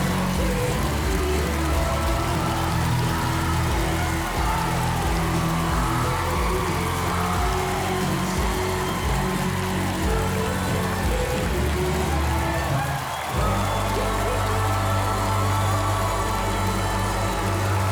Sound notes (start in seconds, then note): 13.7 audience applauds